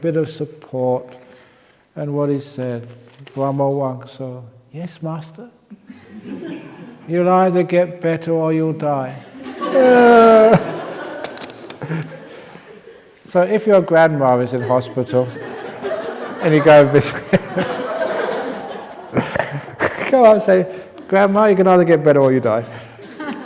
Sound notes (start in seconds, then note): 5.8 laughs; 9.3 laughter; 18.1 laughter